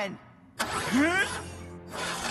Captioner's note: straining; engine sputtering